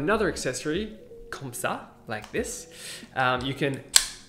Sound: speaking in foreign language

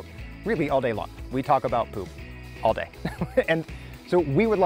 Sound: laughs

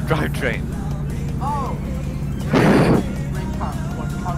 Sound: wheeze

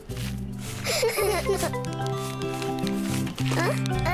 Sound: both laughing

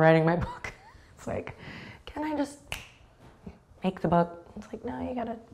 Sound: snaps

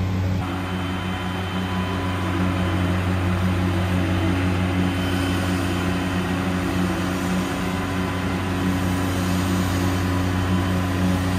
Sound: engine Sound

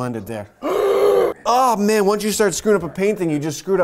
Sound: gasps

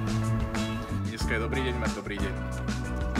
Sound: speaks in foreign language

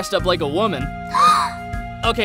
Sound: Aerith Gasps in Inspiration

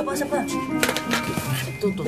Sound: brushes rattling

